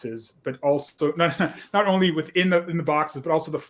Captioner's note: laughs